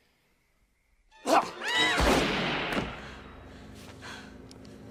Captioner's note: screaming